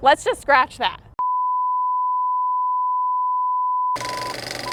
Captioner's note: loud machine beeping